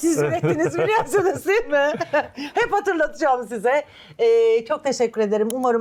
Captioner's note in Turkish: kahkaha